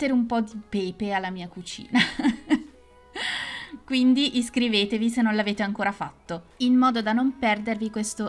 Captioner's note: laughs